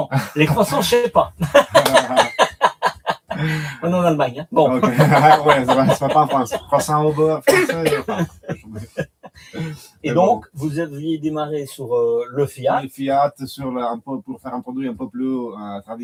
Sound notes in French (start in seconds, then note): 0.1 rires